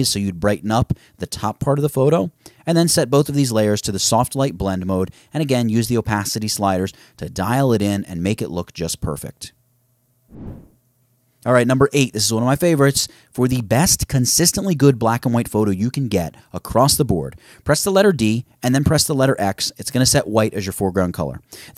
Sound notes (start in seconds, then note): 10.3 swooshes